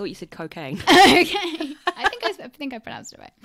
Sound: laughs

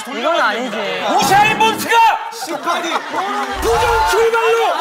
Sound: shouting loudly

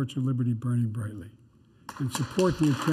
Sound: applause

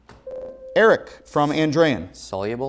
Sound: beeping

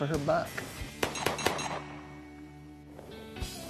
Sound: gunfire

